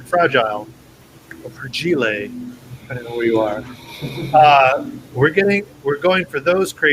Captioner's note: pronounced in a french accent